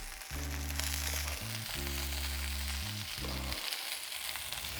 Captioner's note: sizzling sound